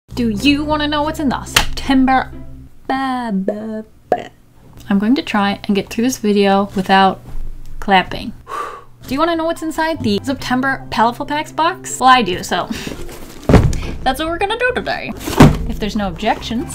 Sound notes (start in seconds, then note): 8.4 exhale; 13.4 thud